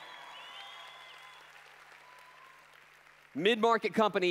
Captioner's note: applause